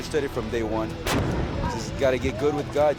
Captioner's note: explosion